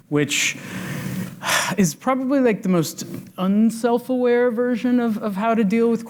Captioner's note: sighs